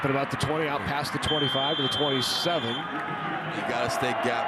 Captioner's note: referee blows whistle